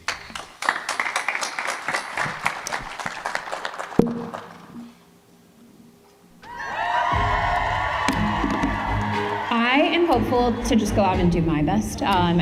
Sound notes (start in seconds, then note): 0.0 applause; 6.4 cheering; 7.0 dramatic music